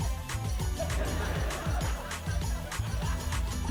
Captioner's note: laughter